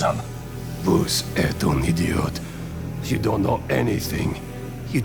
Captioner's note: speaking french